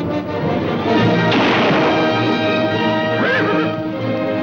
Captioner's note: dramatic music; guns firing